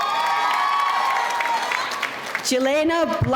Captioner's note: audience cheering